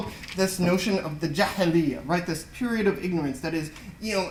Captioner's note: non-english speech